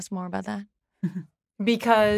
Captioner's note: chuckles